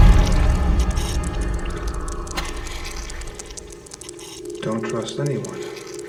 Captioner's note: dramatic music continues; blood dripping